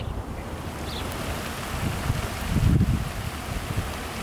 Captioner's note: rain falls